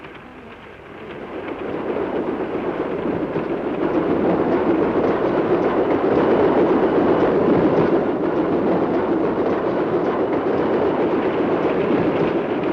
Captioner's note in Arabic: صوت خشخشة القطار; هدير القطار